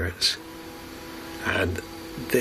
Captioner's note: machine roaring